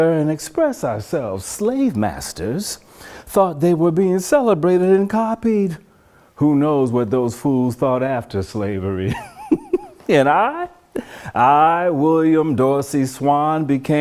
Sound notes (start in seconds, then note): 9.0 laughs